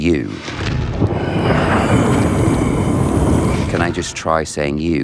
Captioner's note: Vecna growls